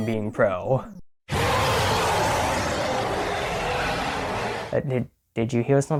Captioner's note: monstrous yell